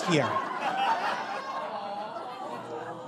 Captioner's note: audience cackles